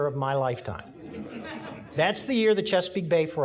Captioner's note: audience laughing